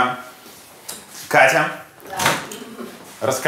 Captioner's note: chuckles